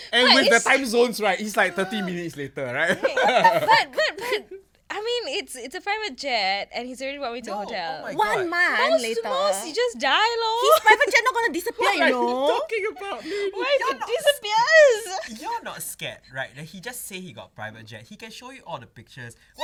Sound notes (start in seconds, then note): 1.6 disagreeing noises